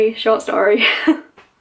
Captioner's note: laughs